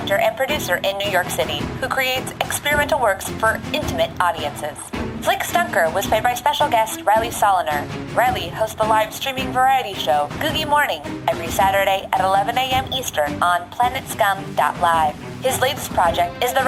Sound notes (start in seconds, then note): none